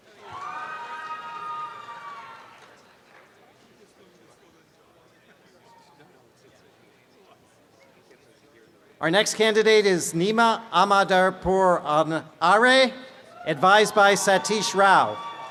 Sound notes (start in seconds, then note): 0.2 applause and cheering; 13.3 cheering; 15.3 chatter